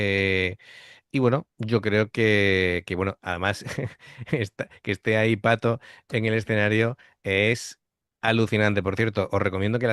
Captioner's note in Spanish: risas